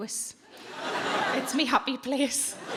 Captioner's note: audience laughing